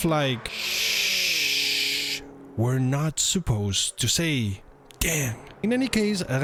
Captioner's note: ssssssshhhhhhhhh